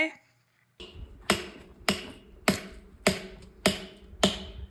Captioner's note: mallet thumping